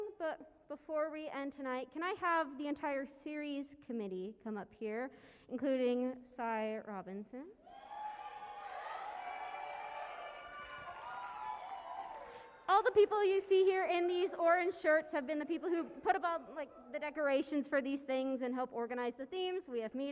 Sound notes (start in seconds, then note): 7.7 cheering and applause